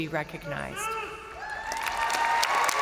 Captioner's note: crowd member shouting; crowd cheering; crowd applauding